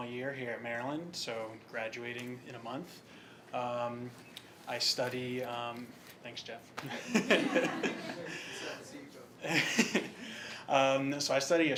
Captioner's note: laugh